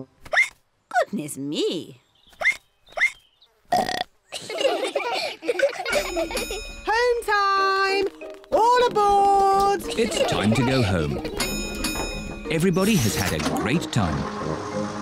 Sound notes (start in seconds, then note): 0.2 hiccups; 2.6 all giggle; 3.7 ducks hiccup and burp; 5.9 bell dings